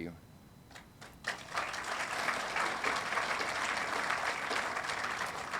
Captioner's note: audience applauding